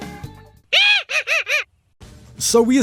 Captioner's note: Mojo evil laugh